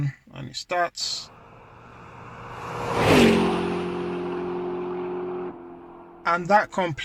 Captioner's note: fast car drive by sound